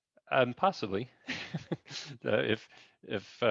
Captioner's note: laughs